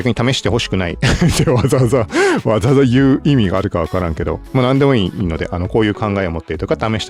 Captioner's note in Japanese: 笑い